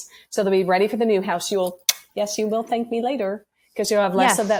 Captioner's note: blows kiss